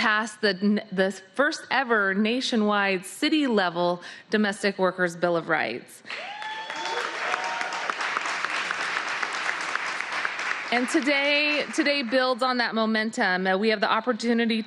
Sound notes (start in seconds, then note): 3.1 cheering